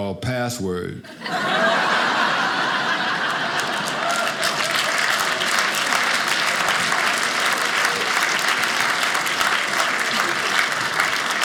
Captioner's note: audience applauding